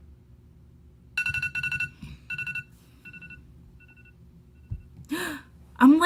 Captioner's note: alarm ringing; alarm ringing; gasps